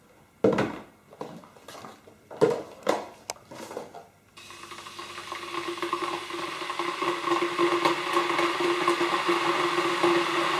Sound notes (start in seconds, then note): 4.4 kettle heating; 8.2 kettle boil builds